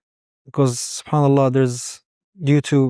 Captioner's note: speaking Arabic